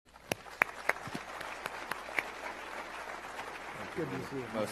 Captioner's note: applause